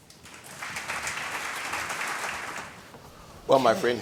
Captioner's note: audience applauds